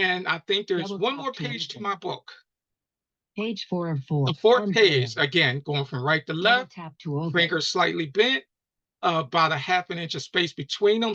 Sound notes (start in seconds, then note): 2.0 automated voice talking over speaking